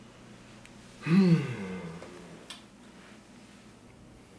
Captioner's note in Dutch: Derrick knort